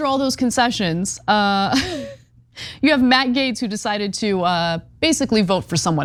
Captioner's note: laugh